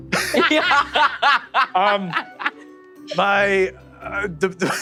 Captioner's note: laugh